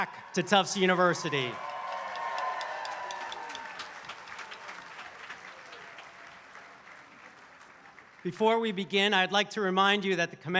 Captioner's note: applause